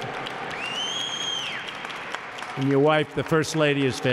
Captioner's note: applause